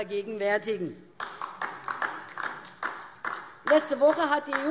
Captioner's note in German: Beifall DIE LINKE